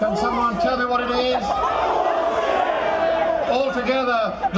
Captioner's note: shouting